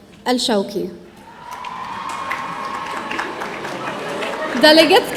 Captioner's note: audience cheering